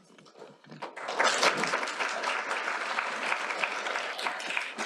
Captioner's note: applause